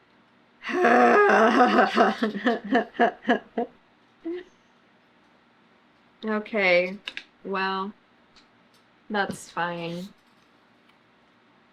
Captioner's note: laughs